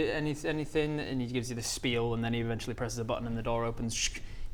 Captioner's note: tssk